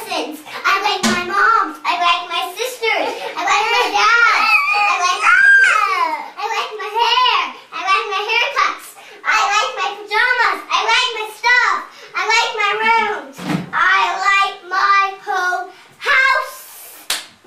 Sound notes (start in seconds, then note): 4.2 baby in background cries; 17.0 clap